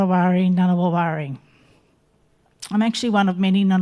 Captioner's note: speaking in Ngunnawal language continues